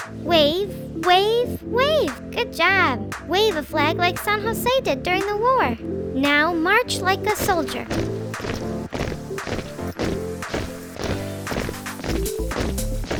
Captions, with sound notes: Wave, wave, wave. Good job. Wave a flag like San Jose did during the war. Now march like a soldier. (feet thudding) (upbeat music)